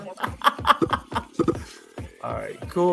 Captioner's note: laughter